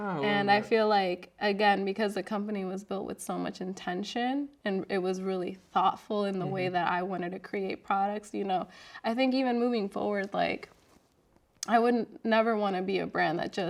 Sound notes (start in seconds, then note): none